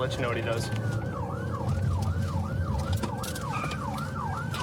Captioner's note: siren wailing